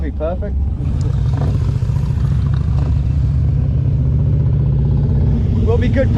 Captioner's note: motorcycle engines rumbling